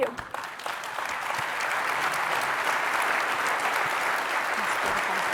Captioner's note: applause